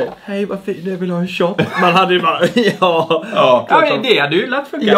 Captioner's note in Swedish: förställd röst